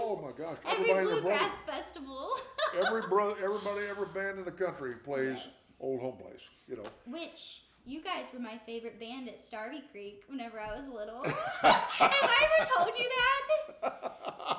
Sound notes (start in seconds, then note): 3.4 laughs; 13.7 laughing